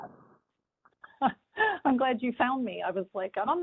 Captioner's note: laughter